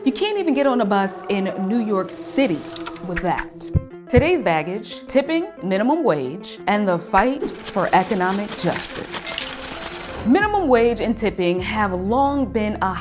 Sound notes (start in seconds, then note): 9.3 coins clinking